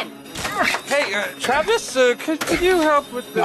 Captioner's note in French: bruit de verre brisé